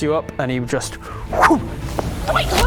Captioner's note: fwoosh